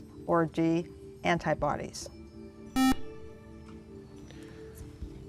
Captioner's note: buzzer